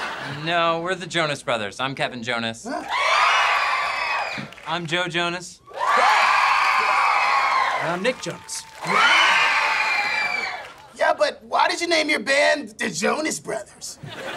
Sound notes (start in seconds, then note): 2.8 cheering